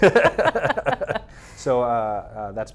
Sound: laughs

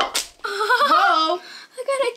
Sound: laughs

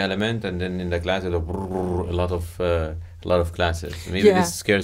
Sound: trilling

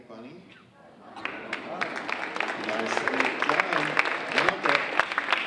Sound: audience applauding

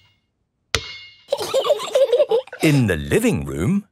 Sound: giggling

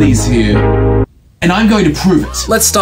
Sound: resonance stops

